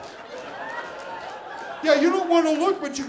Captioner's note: audience laughing